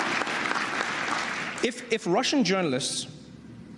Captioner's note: applause